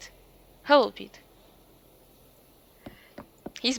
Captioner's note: awkward silence